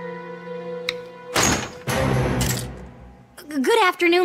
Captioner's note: door opens